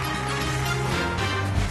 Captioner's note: cheering